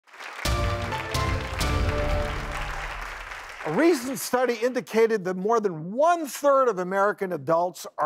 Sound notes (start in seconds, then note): 0.0 audience applauds; 0.4 upbeat music